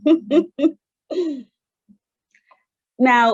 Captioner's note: laughs